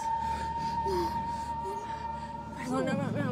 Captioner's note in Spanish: gemidos cada vez más apagados